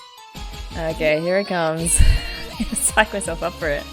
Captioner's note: laughs